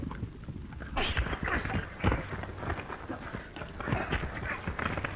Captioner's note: punches cracking